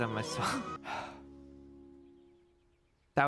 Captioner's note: sighs